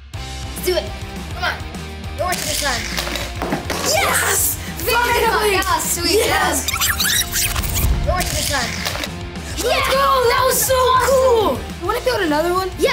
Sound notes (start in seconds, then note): 6.6 film rewinding